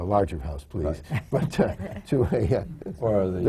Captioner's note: laughter